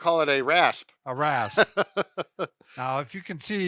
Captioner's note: laughs